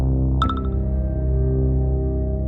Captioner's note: dramatic music; message beeps; dramatic music